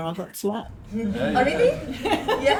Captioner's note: laughter